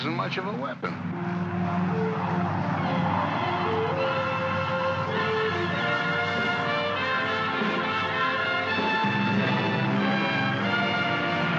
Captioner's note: aircraft rumbles; uplifting music